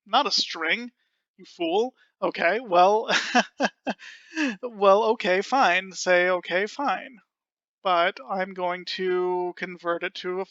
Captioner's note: laughing